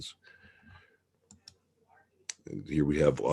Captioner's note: mouse clicking